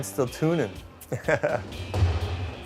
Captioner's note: laughter